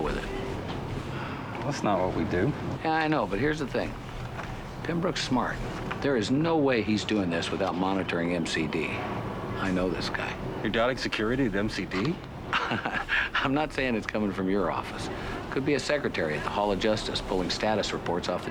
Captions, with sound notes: I'd like the chance to deal with it. - That's not what we do. - Yeah, I know. But here's the thing. Pembrook's smart. There is no way he's doing this without monitoring MCD. I know this guy. - You're doubting security at MCD? - (chuckling) I'm not saying it's coming from your office. Could be a secretary at the Hall of Justice